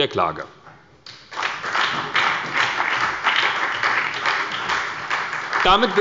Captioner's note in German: Beifall bei der SPD